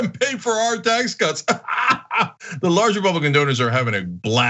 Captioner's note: laugh